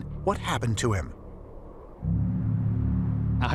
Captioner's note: wind whistling